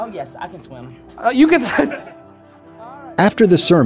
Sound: chuckles

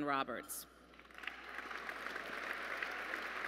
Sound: applause

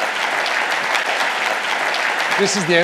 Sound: audience applauding

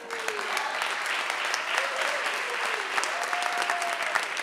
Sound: audience applauding

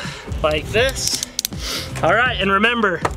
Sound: handcuffs click

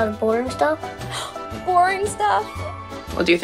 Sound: gasps

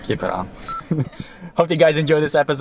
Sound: all laughing

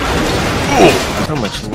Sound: Minecraft old damage sound

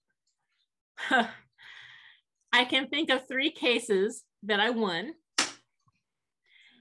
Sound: chuckles

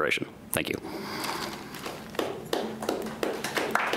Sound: clapping

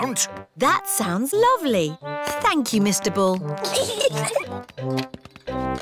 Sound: peppa and george giggle

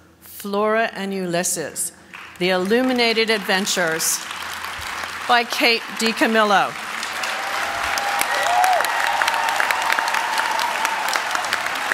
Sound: applause

